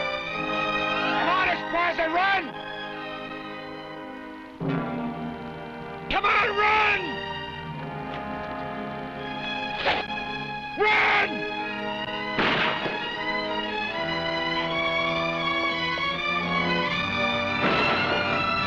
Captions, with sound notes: Come on, Esparza, run! Come on, run! (arrows whooshing) Run! (gunshots blasting)